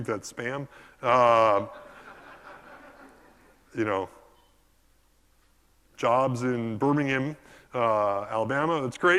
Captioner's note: laugh